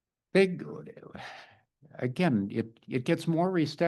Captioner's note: sighs